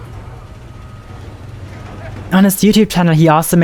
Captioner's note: machine noises